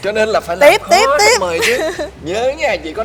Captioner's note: laugh